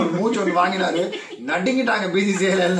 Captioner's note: laughs